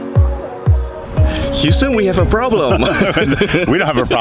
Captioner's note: laugh